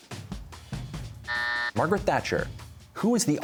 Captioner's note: buzzer